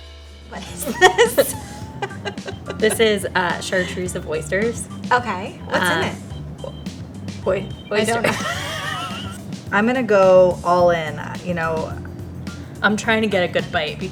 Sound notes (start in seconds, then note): 2.0 laughs; 8.0 both laughing